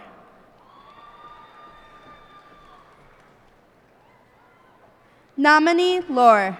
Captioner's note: cheers and applause